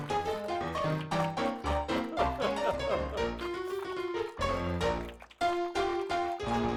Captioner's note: upbeat piano music; audience applauding; laughing